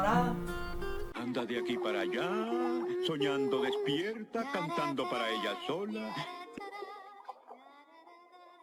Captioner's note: Ariel humming